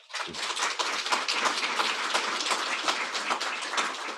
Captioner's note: crowd applauds